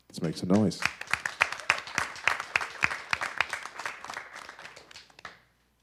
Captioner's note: audience applause